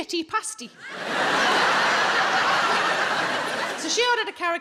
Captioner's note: audience laughs